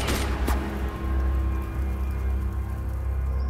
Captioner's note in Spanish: Disparos